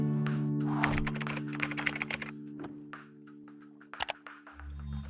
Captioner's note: keyboard clicking